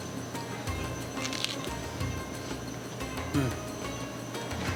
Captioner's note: crunching; laughs